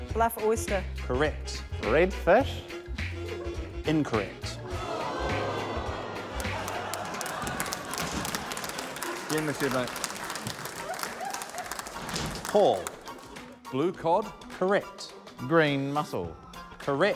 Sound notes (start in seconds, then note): 6.3 audience groan